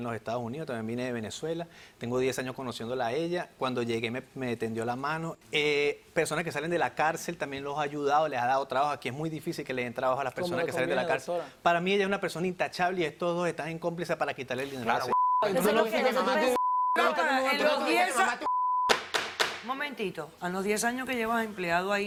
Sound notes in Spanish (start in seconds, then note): 16.4 Bip; 16.9 Comentarios al unísono